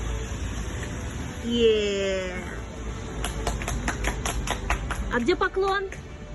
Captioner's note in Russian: апплодисменты